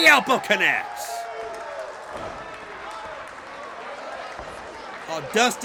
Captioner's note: crowd claps and cheers